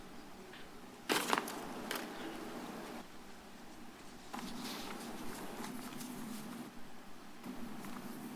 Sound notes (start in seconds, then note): 1.0 paper rustles